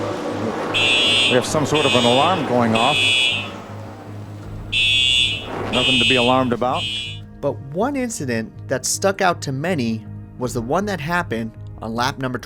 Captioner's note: fire Alarm